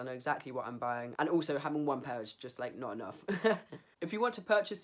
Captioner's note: laughs